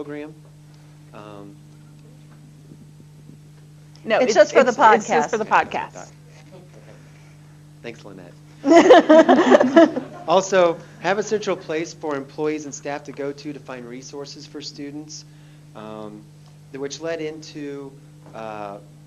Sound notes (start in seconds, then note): 7.0 laughter